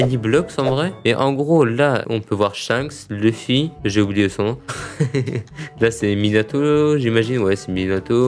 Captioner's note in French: rigole